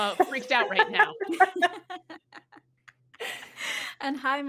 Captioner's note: all chuckling